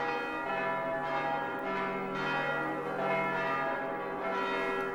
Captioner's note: church bells ring